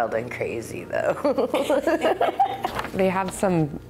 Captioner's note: laughs